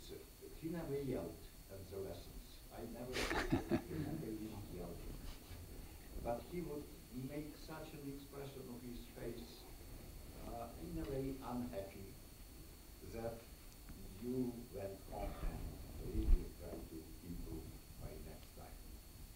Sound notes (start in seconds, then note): 3.1 laughs